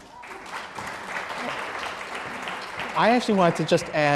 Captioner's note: applause